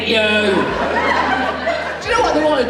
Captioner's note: audience Laughs